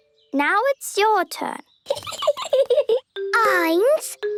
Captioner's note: Peppa giggling